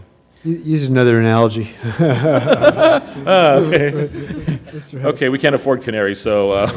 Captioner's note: laugh